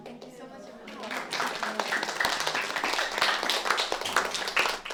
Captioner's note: audience applauding